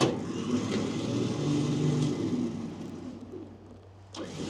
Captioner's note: trailer whirring